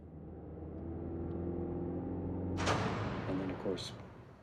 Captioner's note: engine running